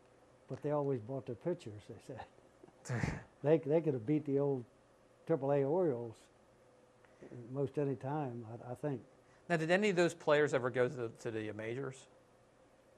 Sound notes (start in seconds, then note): 2.8 laughter